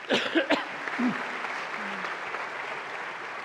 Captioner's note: applause